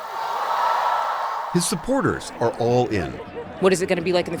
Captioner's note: cheering